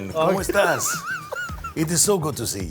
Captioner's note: laughs